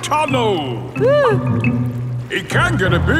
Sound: whimpers

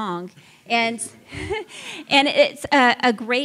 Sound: laughs

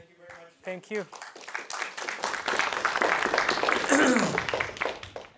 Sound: applause

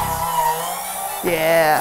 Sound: milkshake machine whirring

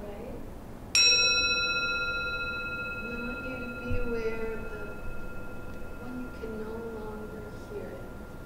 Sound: gong

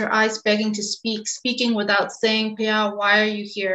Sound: speaks in Burmese

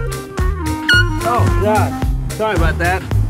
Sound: horn squeaks

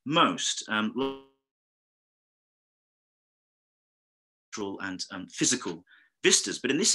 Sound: faintly speaking

